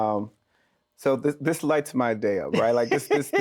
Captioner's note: laughs